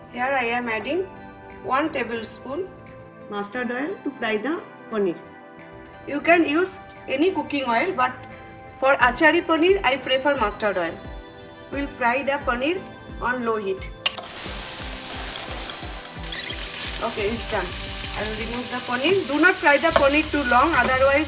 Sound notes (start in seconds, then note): 14.1 pan sizzling